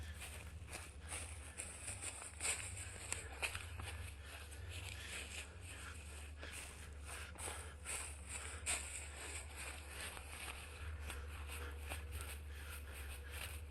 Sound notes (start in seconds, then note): 0.0 heavy breathing as a young man is running